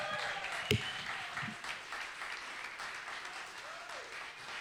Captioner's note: audience applauds